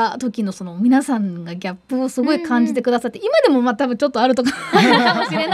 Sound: laugh

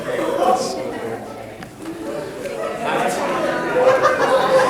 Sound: all chattering

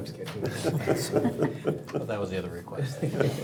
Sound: chuckle

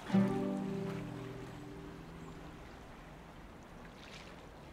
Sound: waves lightly splashing

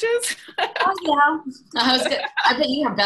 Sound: laughs

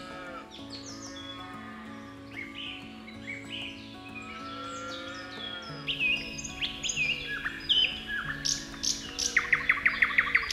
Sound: Honey Cat meows & purrs; birds singing, cows mooing in distance

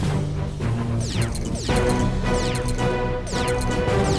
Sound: transporters whir

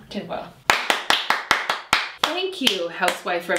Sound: claping

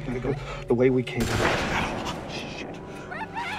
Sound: gun banging

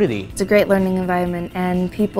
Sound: voiceover

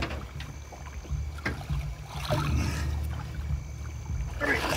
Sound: groaning

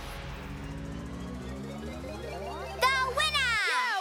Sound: powering up

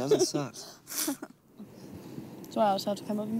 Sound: laughing

